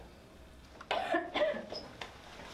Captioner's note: coughs